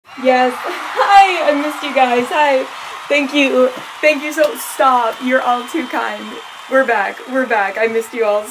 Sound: applause

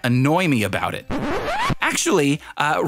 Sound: scraping sound

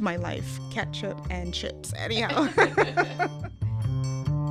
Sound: laughs

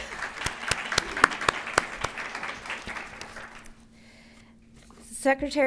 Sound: applause

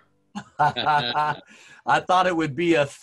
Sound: both laughing

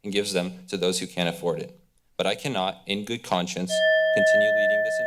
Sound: alarm ringing

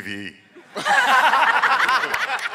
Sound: laughing

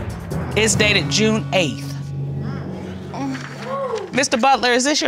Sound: audience exclaiming

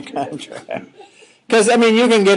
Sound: all chuckling

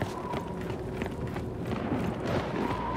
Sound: wind howling

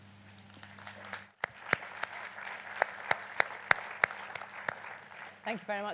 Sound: applause

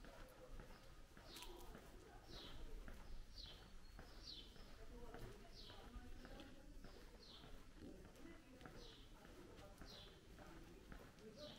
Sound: walking continues

